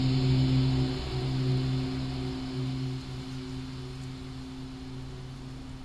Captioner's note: rain pattering; soft tense music